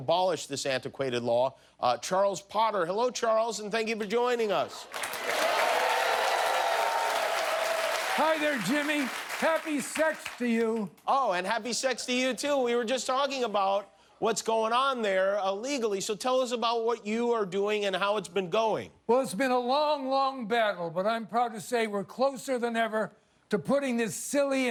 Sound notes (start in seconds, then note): 11.3 cheers and applause